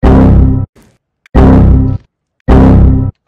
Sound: Windows XP Critical Stop noise

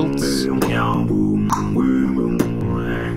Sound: keeps beatboxing

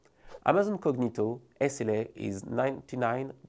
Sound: text whooshing

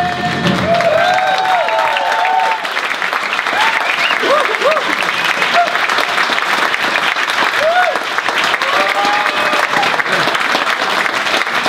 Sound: applause

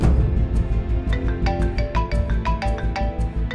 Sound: phone ringing

